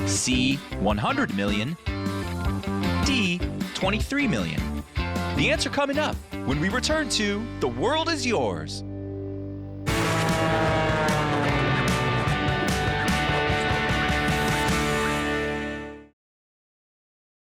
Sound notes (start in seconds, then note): 9.8 airplane roaring; 9.8 upbeat music